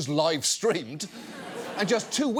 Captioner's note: audience laughs